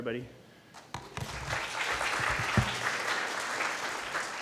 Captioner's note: applause